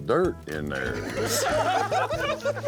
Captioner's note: laughter